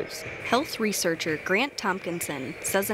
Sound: voiceover

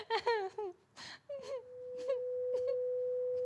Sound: cries

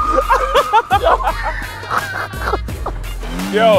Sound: laughing

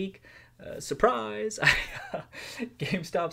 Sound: laughs

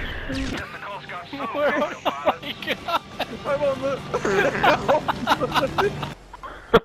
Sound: laughing

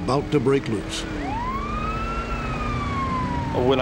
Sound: siren

